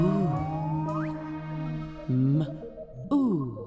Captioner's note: making "m" sound; making "oo" sound